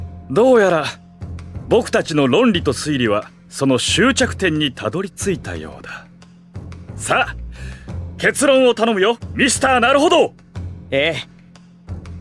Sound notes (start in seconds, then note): none